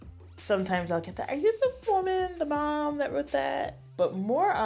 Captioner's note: higher voice